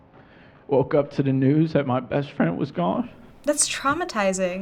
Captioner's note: choking up